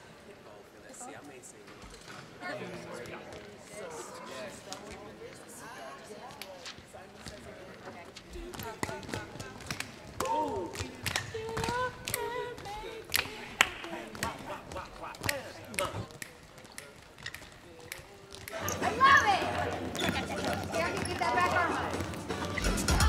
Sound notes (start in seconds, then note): 3.9 talking quietly; 10.4 exclaims; 11.6 singing and counting the beat; 15.7 snapping; 22.8 dance music